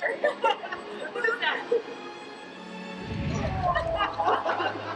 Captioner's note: laughter